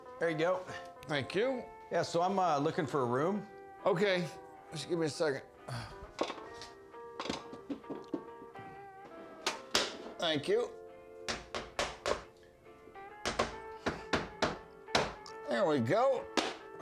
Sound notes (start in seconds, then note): 11.2 hammering